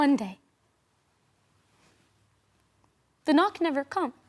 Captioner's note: rustling